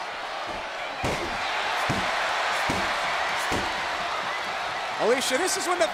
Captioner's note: Randy pounding mat